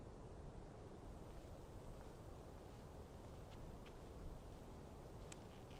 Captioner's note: footsteps shuffling